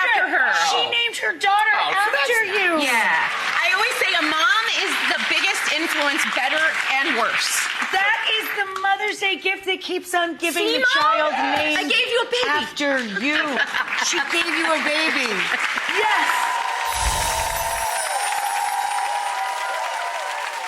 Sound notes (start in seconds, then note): 3.0 audience applauding; 17.2 audience applauding